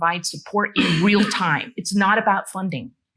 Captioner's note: attendee coughing